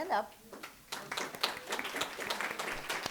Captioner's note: applause